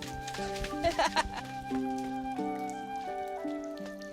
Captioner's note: flute music plays; laughs